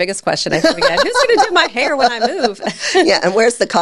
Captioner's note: laughing; chuckles